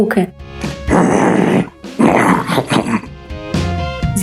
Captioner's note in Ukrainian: грммм-кхммм